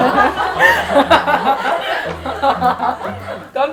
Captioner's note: laughing loudly